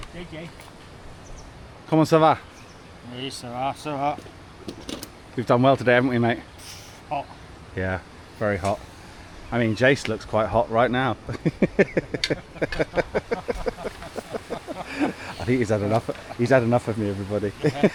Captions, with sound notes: JJ. Come on, so far. Yes, so far, so far. We've done well today, haven't we, mate? Hot. Yeah, very hot. I mean, Jace looks quite hot right now. (laughing) (laughing) I think he's had enough of me, everybody.